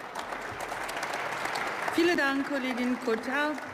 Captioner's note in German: Beifall